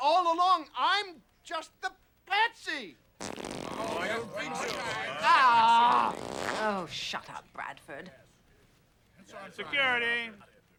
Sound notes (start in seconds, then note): 3.2 farting sounds